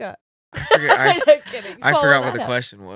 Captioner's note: laughing